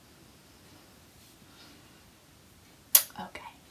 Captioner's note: dramatic Pause